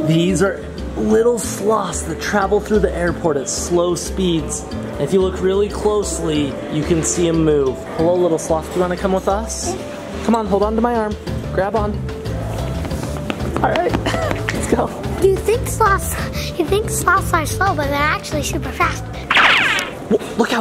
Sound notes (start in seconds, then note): 14.0 chuckles